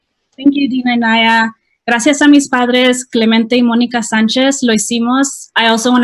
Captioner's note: speaking in spanish